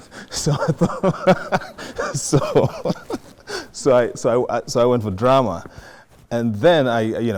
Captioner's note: laughs